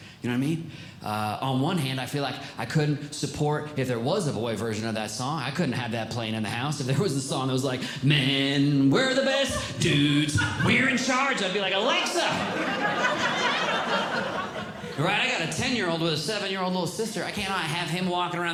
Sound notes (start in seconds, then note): 7.9 singing; 11.8 audience Laughing